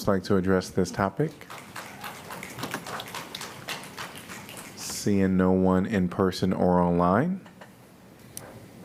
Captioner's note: applause